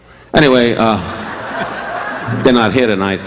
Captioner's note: audience laughing